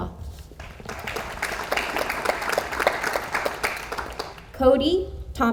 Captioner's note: audience applauds